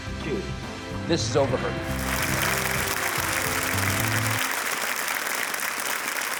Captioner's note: audience applauding